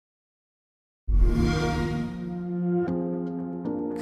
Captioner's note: xbox sound